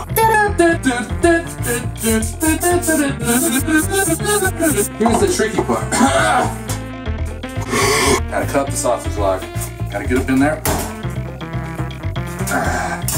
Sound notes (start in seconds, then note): 5.8 hack, wheeze; 7.6 reverse cough